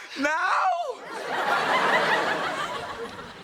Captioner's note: audience laughter